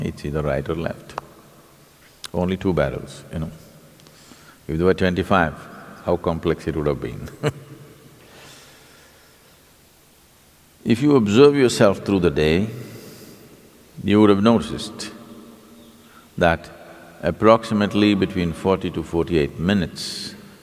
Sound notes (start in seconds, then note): 7.2 laugh